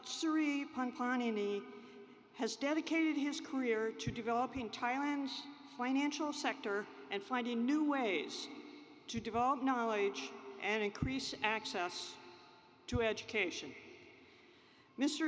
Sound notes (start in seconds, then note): none